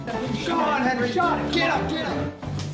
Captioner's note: upbeat saloon music continues; people chattering